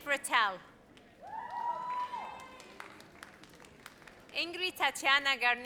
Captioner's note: audience cheers